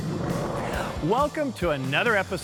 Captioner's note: skateboard slamming